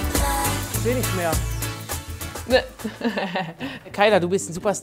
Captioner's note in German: Lachen